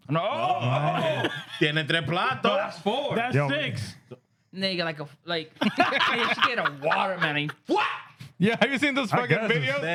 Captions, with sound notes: No, no, no, no. ¿Quien entre plan to? That's four, that's six. Nigga like a, like. (Laughing) She get a watermelon. What? Yeah, have you seen those fucking videos?